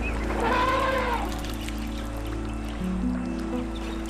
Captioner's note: elephant trumpeting, birds twittering